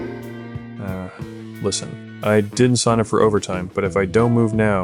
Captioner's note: groan